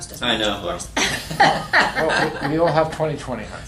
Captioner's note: laughter